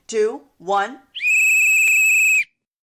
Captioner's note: whistle blows